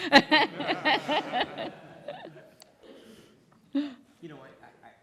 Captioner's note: laughter